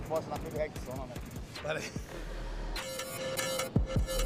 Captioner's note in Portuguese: risada